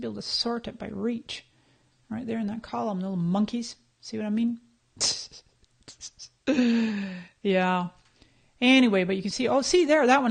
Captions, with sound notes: You used to be able to sort this by reach, right there in that column. No monkeys, see what I mean? (laughs) Yeah, anyway. But you can see--